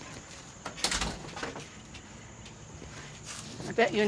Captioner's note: door shutting